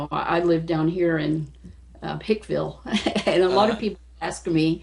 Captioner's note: laughs